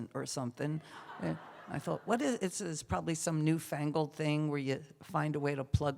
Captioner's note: laughter